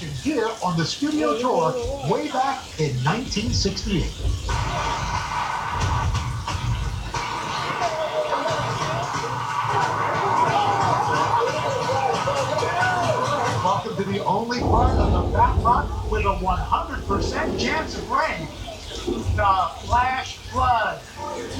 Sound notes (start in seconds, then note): 5.0 upbeat music; 11.0 water splashing